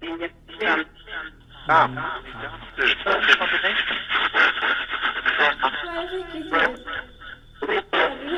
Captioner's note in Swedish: Skratt